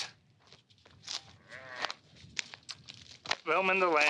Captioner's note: sheep bleating